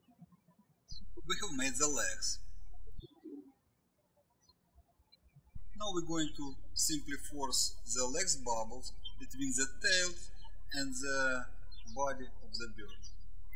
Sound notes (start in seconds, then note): 0.8 birds chirping